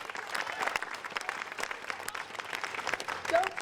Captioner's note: audience applauding